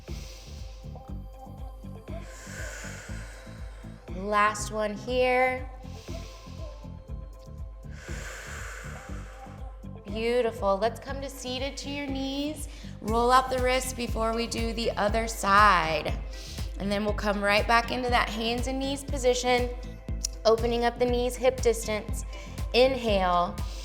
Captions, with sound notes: (inhales) (exhales) Last one here. (inhales) (exhales) Beautiful. Let's come to seated to your knees. Roll out the wrist before we do the other side. And then we'll come right back into that hands and knees position. Opening up the knees, hip distance, inhale.